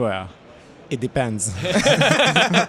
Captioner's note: laughter